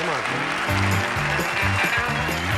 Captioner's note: audience applauding